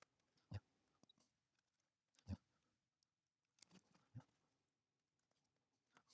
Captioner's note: blank Audio